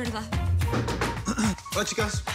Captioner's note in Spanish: Toques en la puerta; Carraspea